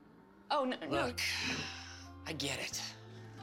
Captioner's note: sighs